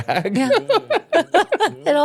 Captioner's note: laughing